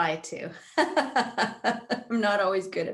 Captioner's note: laughing